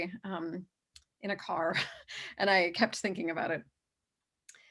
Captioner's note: chuckles